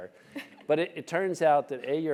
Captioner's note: laugh